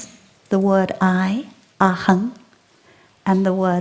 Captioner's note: in sanskrit